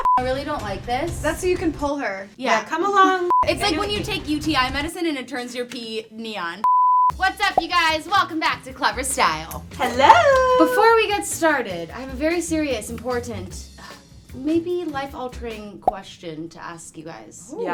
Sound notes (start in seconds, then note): 0.0 beep; 3.3 beep; 6.6 beep